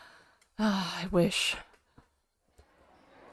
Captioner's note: sighs